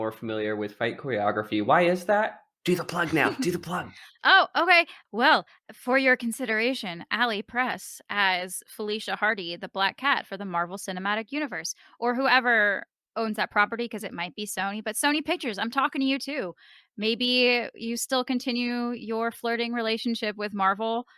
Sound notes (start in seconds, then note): 2.2 in a stage whisper